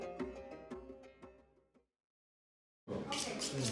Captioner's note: speaking Turkish